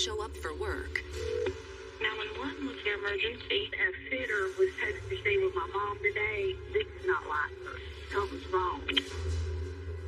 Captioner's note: phone rings